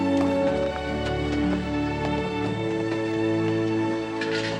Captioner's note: bright music; birds chirping